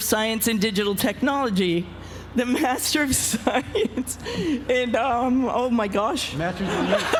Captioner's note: laugh